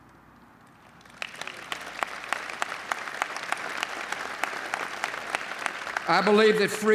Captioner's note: applause